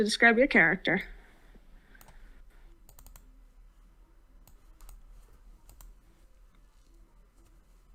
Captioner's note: silence